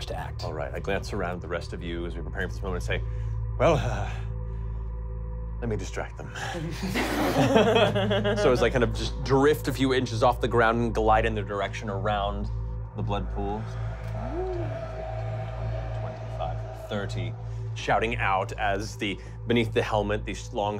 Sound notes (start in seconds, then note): 6.6 laughing; 13.2 spooky whistling